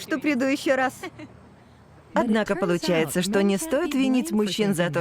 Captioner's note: laughs